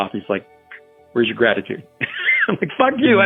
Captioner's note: laughter